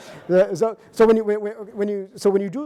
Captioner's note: audience laughing